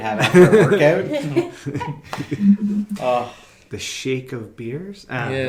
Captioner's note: laughing